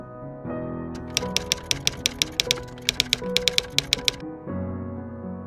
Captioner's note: typewriter keys clicking